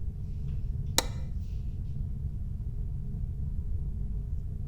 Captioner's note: switch clicking